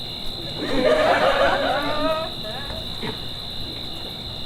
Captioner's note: audience laughs